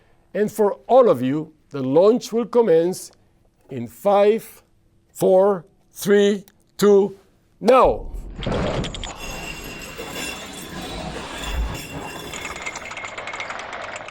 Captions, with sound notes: And for all of you, the launch will commence in five, four, three, two, now.' (crackling noise of machine)